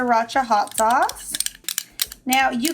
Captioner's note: spoon clanking lightly